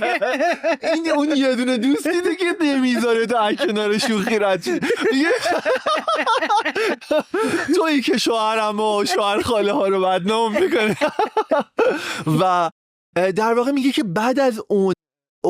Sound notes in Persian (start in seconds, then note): 6.0 خنده